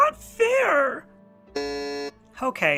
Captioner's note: buzzer